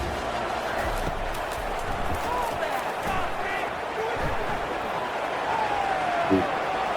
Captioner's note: crowd Noises